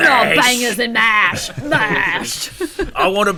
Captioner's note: Jason Statham voice